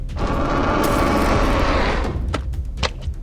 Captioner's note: knife slashes; shark roaring; knife slashing; fin flapping